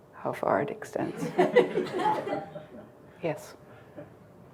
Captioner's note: crowd laughing